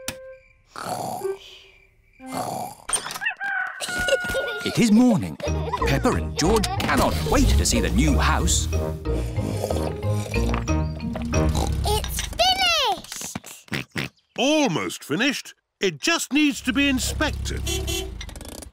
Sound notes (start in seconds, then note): 0.2 both snoring; 3.1 rooster crowing; 9.0 slurping; 11.4 george oinks; 11.4 oinks; 16.8 horn beeps